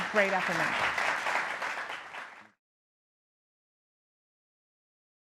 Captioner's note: participants clapping